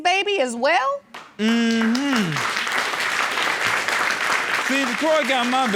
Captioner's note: audience clapping